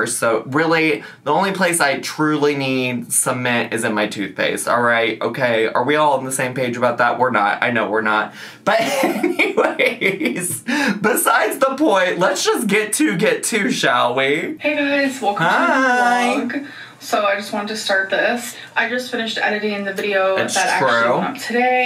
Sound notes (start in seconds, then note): 8.7 laughs